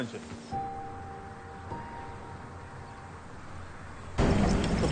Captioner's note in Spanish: Ruido del vehículo